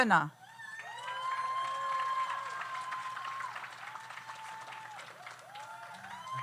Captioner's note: audience cheers; audience applauds